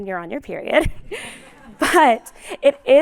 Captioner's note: laughter